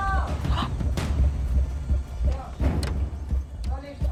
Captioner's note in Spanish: Grito ahogado